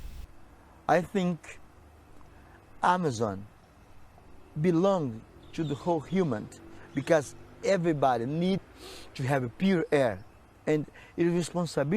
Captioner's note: breaths